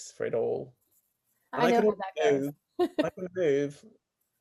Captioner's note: laughs